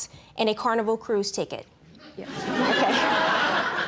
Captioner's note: audience laughs